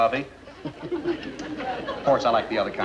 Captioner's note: laughing